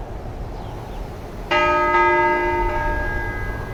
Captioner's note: church bell ringing